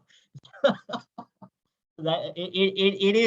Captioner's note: laughing